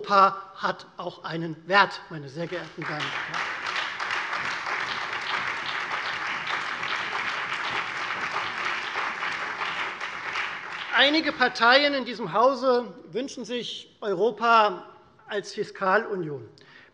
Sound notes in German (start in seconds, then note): 2.4 Beifall Freie Demokraten, vereinzelt CDU, BÜNDNIS 90/DIE GRÜNEN und SPD